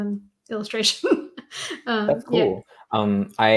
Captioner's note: chuckles